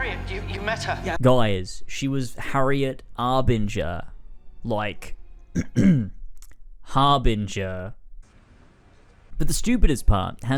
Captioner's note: clears throat